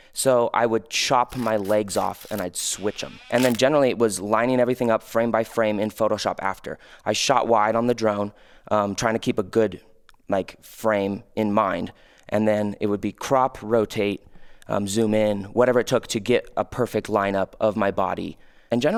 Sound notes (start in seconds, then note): 1.3 door creaking